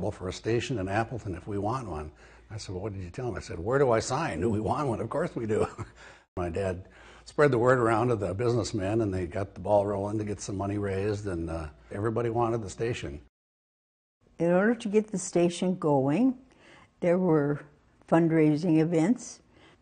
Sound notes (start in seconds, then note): 6.2 laughs